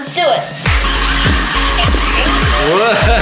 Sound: toys whirring

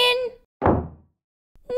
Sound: slam!

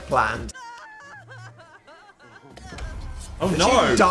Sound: Sim sobs

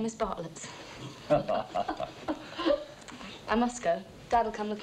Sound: all chuckling

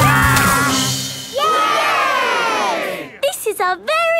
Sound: all cheering

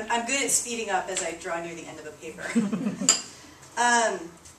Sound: laughter

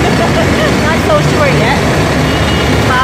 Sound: giggles

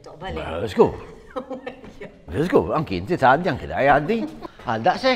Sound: giggles

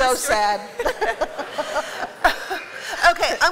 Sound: laughter

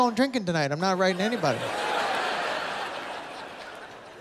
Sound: laughter

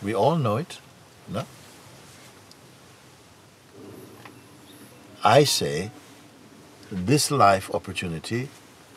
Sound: none

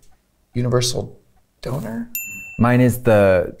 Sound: bell dings

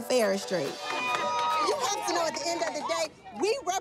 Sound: cheering

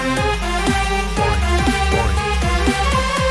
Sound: SFX: "Boing. Boing."

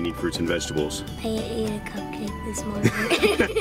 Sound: laughs

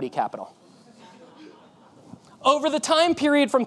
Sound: audience laughing

